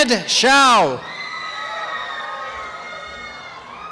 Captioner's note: cheering and applause